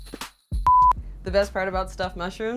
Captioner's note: smooth music; beep